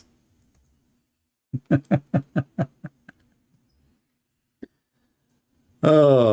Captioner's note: Ketawa